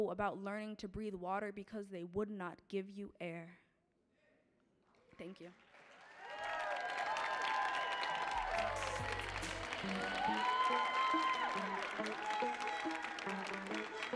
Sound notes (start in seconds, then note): 5.5 audience cheering and applauding; 8.2 mellow music